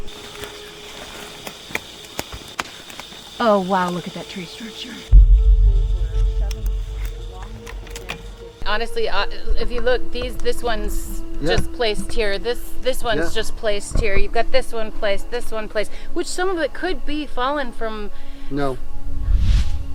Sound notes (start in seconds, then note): 1.0 radio static; 3.9 eerie music; 5.0 branches knocking